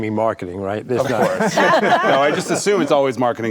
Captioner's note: group laughing